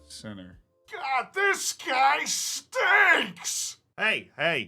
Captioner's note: shouts